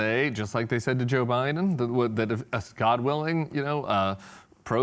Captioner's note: none